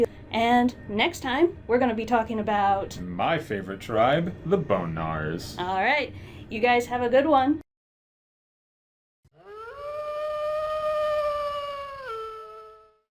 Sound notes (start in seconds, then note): 9.3 distant wolf howl